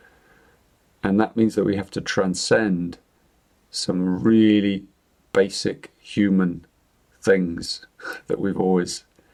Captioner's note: chuckles